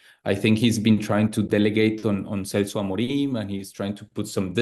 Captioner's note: speaks Spanish